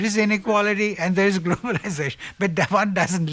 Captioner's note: laughs